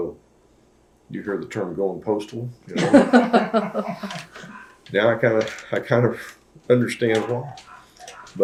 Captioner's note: laughter